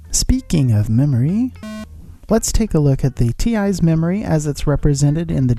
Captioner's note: error beep